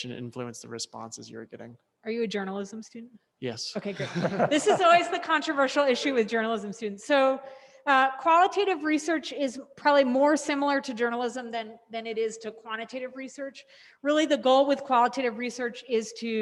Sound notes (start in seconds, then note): 3.9 audience laughs